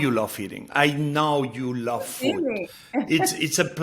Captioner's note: Padma chuckles